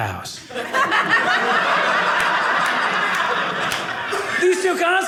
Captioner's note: audience laughing